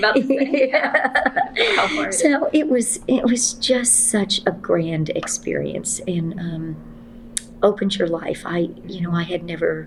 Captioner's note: laughs